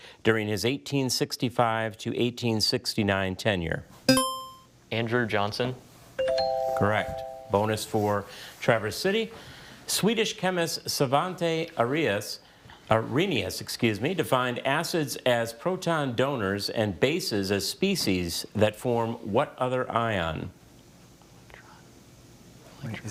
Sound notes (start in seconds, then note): 4.1 buzzer chimes; 6.2 bell chimes